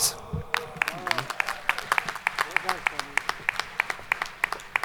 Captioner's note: audience applauding